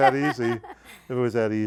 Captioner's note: laughing